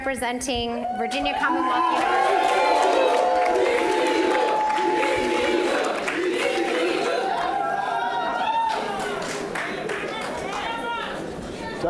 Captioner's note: cheers